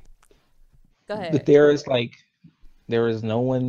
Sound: laughs

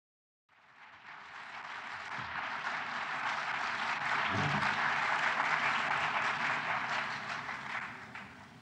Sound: applause

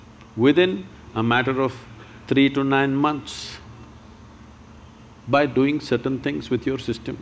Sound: none

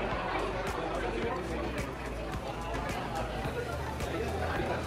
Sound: background chatting

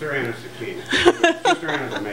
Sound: laughing

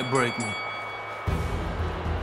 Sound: bell

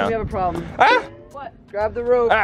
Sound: yelping

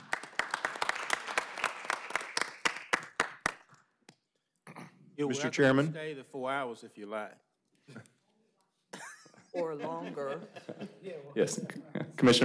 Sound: applause

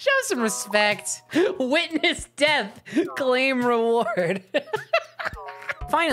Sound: laughing

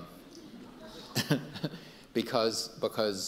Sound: audience laughing; Dr. Chu laughing

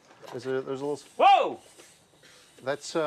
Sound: shouts

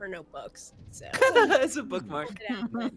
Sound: multiple chuckling

